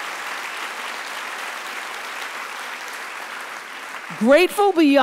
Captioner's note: audience applauds